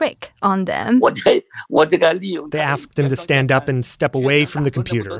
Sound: speaking Mandarin

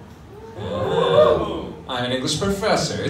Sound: audience gasps

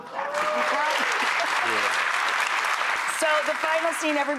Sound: audience clapping

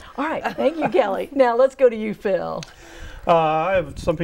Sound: laughing

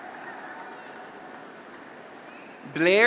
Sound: audience applauds

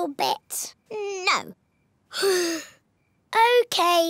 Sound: sighs

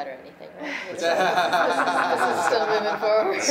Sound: many laughing

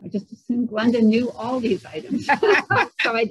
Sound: laughter

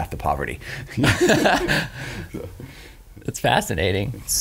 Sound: laughs

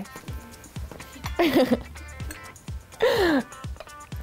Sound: chuckles

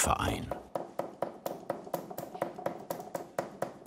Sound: dull knocking

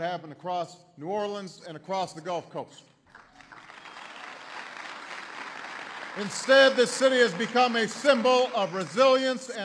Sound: applause

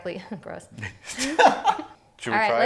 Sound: laughing

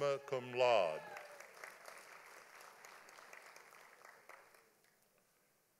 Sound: audience applauding

